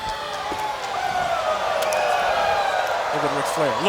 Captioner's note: crowd cheering